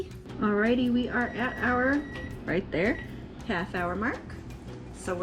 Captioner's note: timer goes off